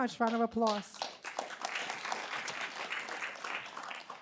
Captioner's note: applause